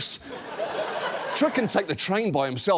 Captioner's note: studio audience laughs